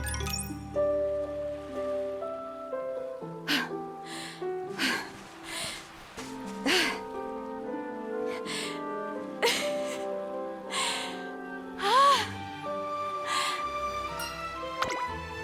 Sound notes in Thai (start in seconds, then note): 8.3 หัวเราะ